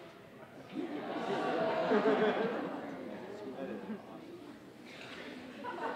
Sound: audience exclaiming

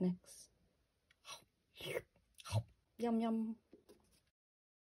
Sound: munch. Slurp. Munch. Yum yum

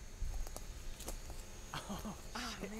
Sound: excited laughter

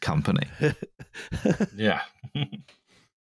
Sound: laughs

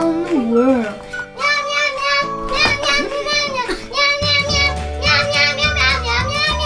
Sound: meows in rhythm

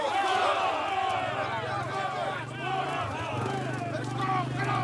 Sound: warriors shouting

